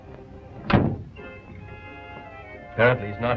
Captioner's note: door bangs